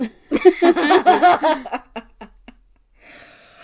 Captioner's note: laugh